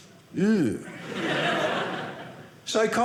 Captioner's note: audience laughing